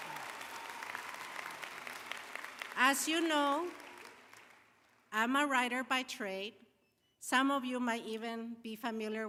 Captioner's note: applause